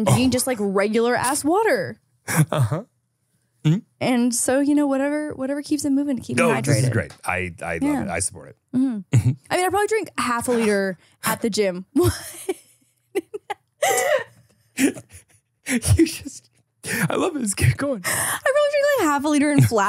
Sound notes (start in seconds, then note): 12.5 everyone laughs; 14.8 laughs